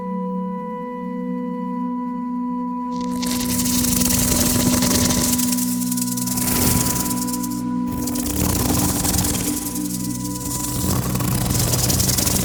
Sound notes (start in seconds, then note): 2.9 snake hisses; 2.9 snake rattles